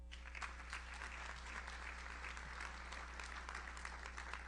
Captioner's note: audience applauds